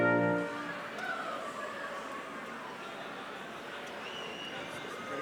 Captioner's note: crowd chattering